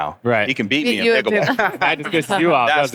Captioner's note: laughs